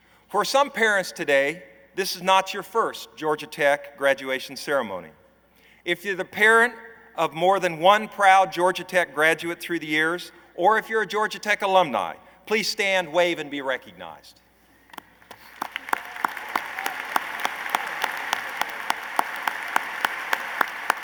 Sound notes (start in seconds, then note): 14.9 applause